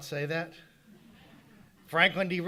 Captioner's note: audience laughing